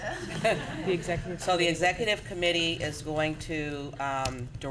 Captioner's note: laughter